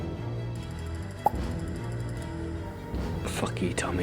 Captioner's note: finger pops